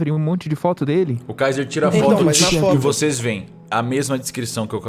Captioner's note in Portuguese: tsh